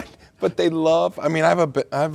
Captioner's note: laughing